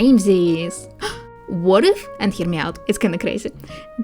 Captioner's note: gasp